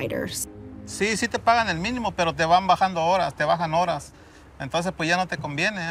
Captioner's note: speaking in Spanish